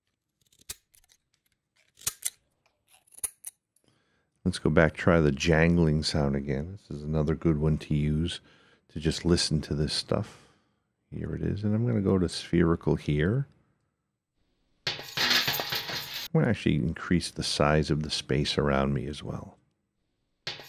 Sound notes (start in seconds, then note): 14.9 jangling sounds